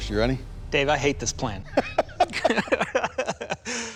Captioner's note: laughter